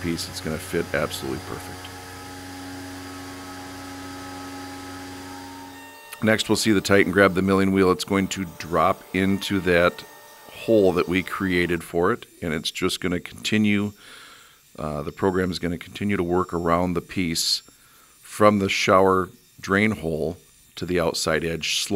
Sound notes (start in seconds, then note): 2.2 Titan buzzing